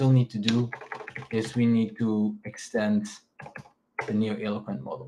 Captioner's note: keyboard clacking